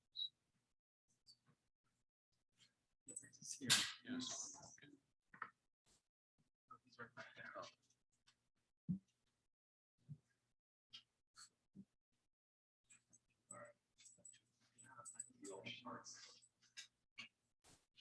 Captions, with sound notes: (people chattering indistinctly) - He's right back there. - Oh.